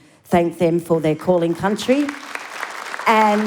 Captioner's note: applause